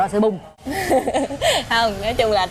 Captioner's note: laughing